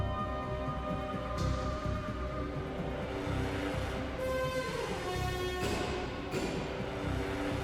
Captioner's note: none